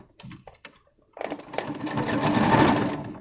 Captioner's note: sound of sewing machine